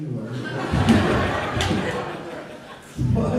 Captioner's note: audience laughter